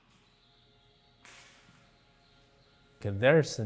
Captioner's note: birds chirping softly